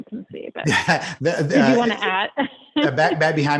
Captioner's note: laughs